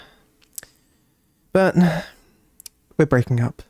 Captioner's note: sigh